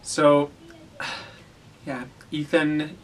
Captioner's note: sigh